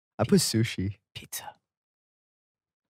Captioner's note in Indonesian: berbisik